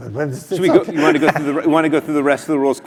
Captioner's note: laugh